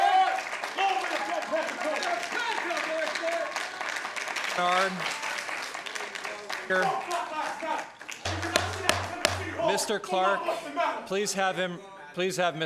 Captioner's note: applause